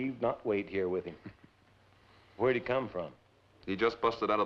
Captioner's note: chuckles